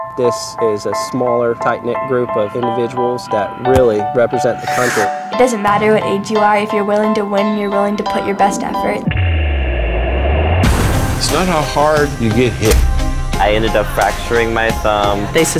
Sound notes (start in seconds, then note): 10.2 whooshing air; 12.0 funky music